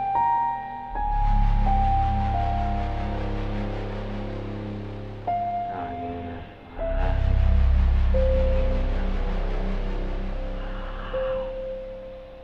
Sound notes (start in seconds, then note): 8.4 chanting